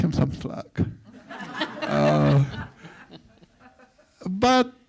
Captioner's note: audience laughs